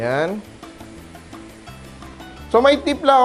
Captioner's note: sizzle